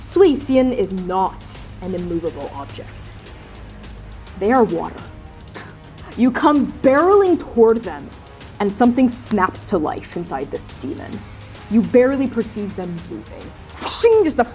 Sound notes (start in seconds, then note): 5.5 scoffing; 10.0 snapping; 13.7 blades flashing